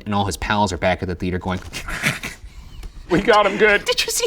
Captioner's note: laughing